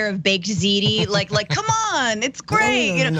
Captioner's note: laugh